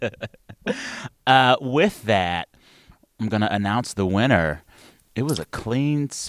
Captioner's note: laughter